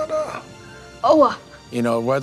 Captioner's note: speaks Indigenous American language